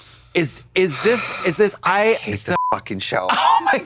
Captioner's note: beep